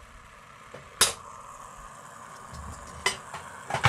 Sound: pot rumbling

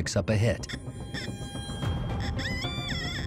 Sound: metal detector squealing

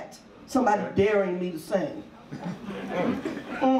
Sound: audience laughs

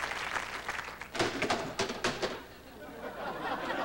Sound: chair collapsing

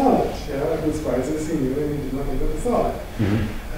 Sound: foreign language

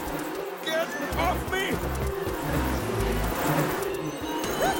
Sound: buzzing

